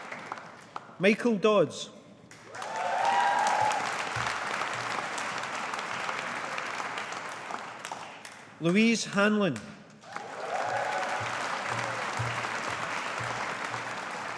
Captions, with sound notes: Michael Dodds. (AUDIENCE APPLAUDING) Louise Hanlon. (AUDIENCE APPLAUDING)